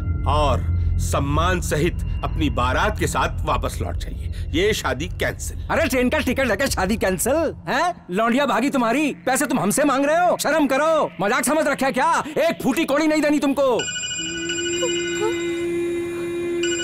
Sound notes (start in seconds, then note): 13.8 Cellphone rings